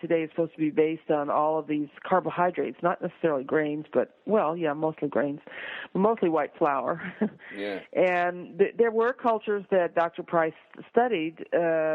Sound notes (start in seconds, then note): 7.3 laughs